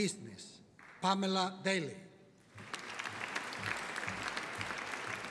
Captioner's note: audience applauding